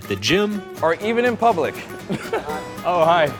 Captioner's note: chuckles